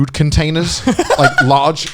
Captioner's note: laughing